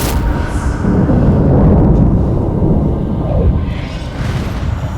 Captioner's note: thunder crashes; eerie music